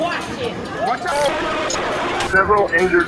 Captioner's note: group chattering